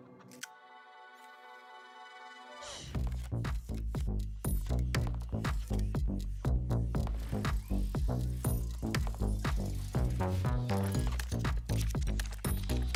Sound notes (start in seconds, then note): 2.2 mechanisms whirring; 2.9 techno upbeat music